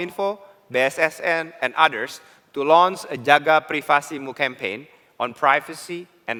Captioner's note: non-english